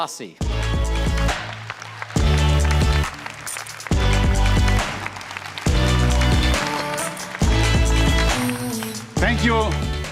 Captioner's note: cheers and applause